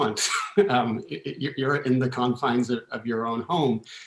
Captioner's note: laughter